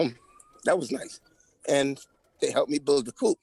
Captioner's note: crying